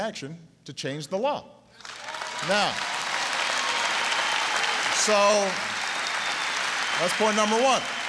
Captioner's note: applause